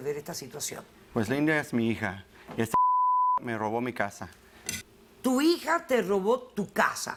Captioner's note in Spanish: Bip